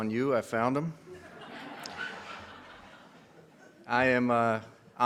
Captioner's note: audience laughs